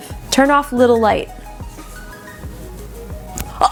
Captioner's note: gasps